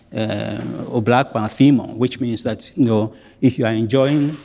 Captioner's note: speaks in foreign language